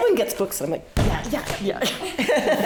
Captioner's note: hand banging